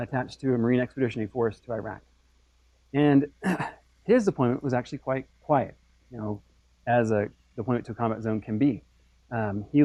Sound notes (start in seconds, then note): 3.4 cough